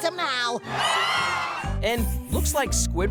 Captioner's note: cheering